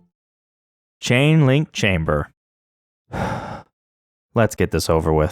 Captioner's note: breathe